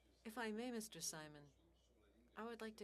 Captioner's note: speaking French